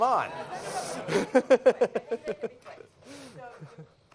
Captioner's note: laughter